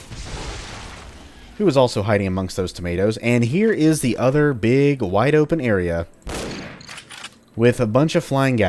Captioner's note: bam